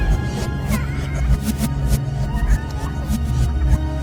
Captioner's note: child crying